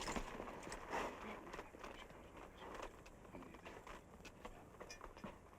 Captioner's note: both whispering